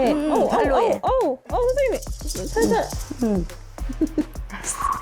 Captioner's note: slightly nervous sound